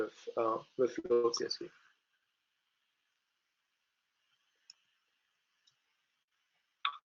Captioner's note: audio cuts out